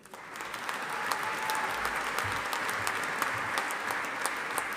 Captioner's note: audience applauding